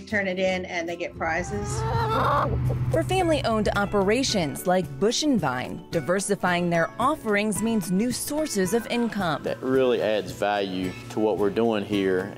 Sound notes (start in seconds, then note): 1.4 chickens cluck